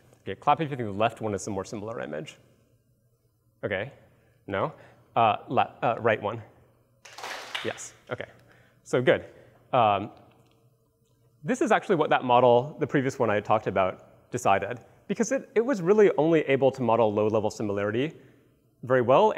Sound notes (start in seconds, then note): 7.1 claps